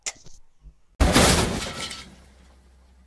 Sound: crash!

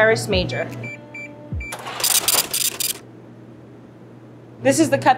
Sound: scale beeps and brrhs

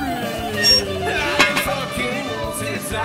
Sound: metal squeaking

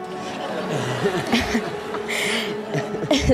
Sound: guests laugh

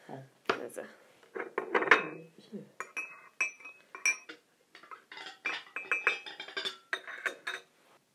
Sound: china sounds

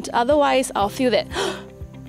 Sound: gasp

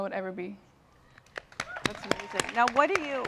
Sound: applause

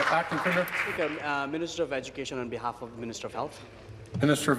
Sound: applause

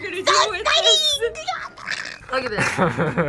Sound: growls; both laugh

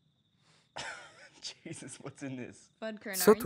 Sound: laughs

